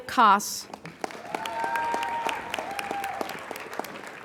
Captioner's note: applauding